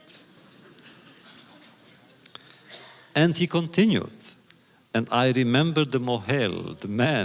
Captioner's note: audience laughter